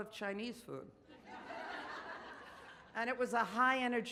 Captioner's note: audience laughs